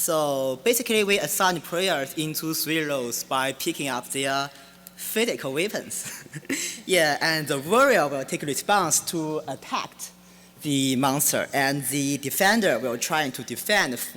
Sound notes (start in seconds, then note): 6.0 laughing